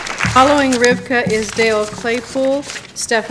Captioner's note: applause